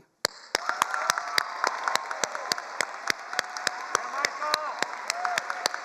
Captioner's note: all cheering and applauding